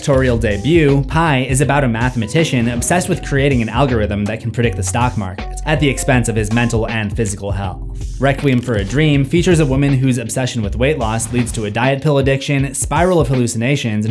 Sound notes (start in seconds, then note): none